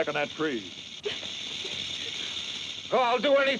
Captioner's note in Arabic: خشخشة الثعبان